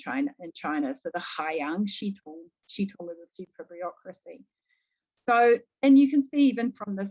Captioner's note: speaking mandarin